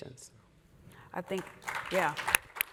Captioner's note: applause